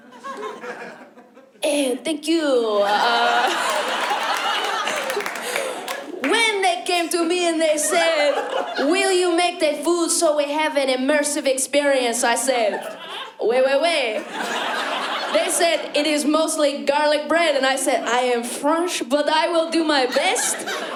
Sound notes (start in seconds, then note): 2.4 French accent; 2.8 laughter